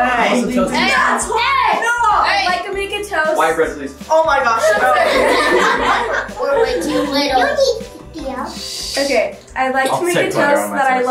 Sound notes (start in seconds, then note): 4.6 group laughs